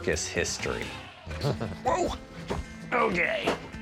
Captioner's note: chuckles